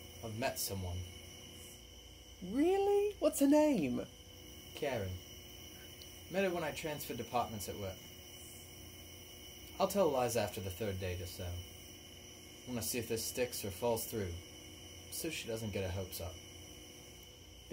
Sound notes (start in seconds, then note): none